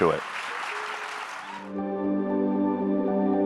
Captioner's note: audience applauds; soft, bright music